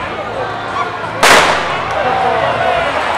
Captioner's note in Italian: sparo